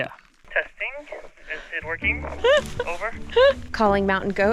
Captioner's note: over walkie talkie; laughs amusedly